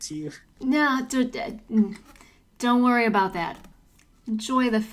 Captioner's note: incoherent noises of denial